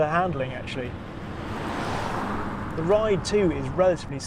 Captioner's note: car roaring